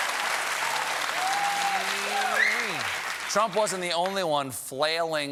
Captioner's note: applause